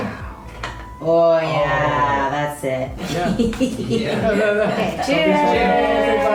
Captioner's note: laugh